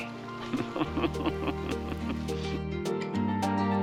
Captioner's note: laugh